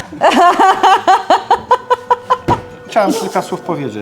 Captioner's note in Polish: śmiech